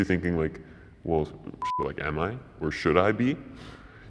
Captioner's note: beep